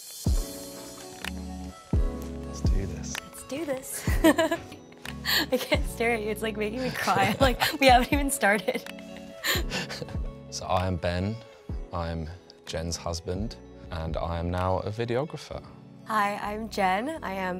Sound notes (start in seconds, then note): 4.0 laughs; 6.8 laughs